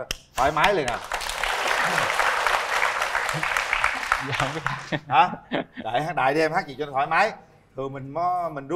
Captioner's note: applause